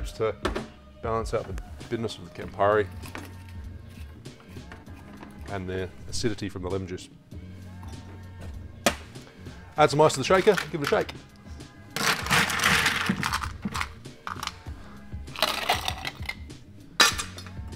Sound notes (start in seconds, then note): 2.8 bright music; 12.0 ice cubes grinding; 14.8 bright music